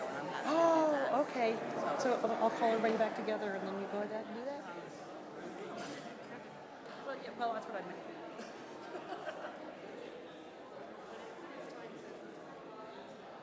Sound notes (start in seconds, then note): 9.0 laughs